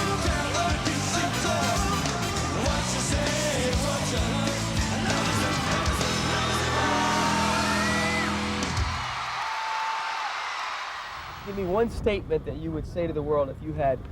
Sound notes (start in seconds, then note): 9.3 audience cheers